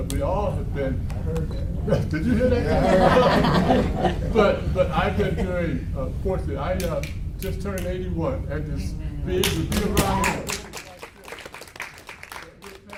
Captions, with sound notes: We all have been- - I heard that one. - Did you hear that too? - Yeah. (audience laughs) - I just turned 81 (audience claps)